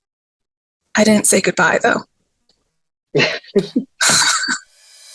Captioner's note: laughs